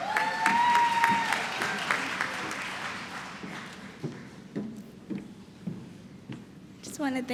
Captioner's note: applause